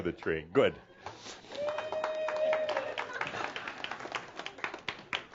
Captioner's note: applause as she returns to her seat